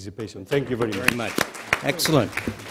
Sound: applause

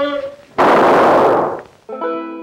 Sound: gun firing; suspenseful guitar music

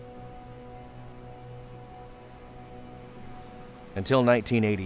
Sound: water rushing

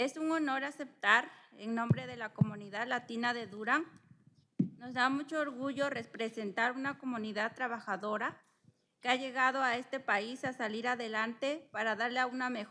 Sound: speaking spanish

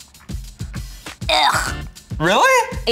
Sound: jazzy music continues; gags

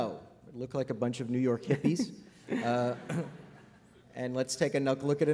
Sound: laughter

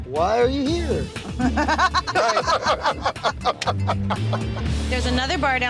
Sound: group laughs

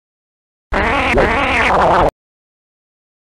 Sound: blowing a raspberry

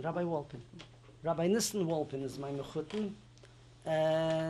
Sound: non-english

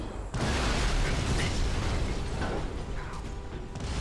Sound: explosion

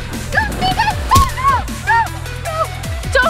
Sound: shouting

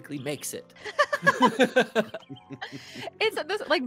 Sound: multiple chuckling

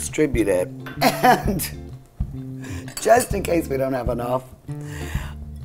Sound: chuckles

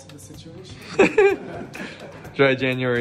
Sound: laughing

